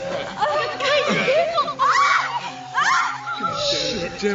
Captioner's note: confused speaking